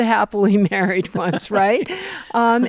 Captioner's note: laughter